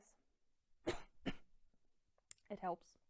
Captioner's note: coughing